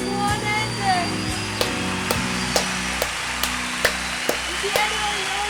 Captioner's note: audience cheering